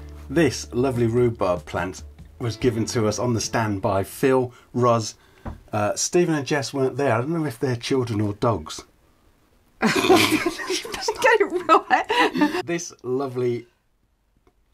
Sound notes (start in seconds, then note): 9.8 laughter